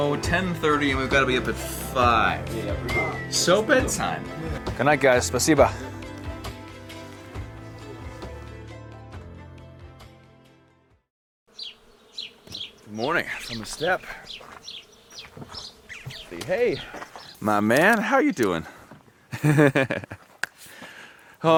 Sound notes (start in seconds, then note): 6.0 speaking foreign language; 7.8 gentle music; 13.2 birds chirping; 19.3 laughs